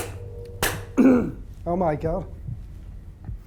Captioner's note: clapping; clearing throat